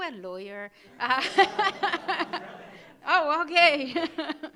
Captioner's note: audience laughing